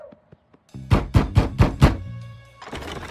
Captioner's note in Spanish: agresivamente tocando la puerta